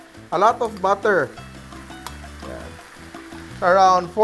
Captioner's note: sizzle